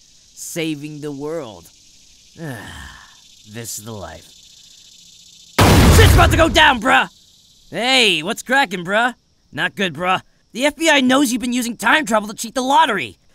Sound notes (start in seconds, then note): 2.4 sigh